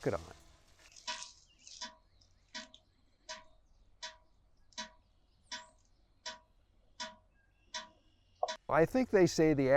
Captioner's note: sap dripping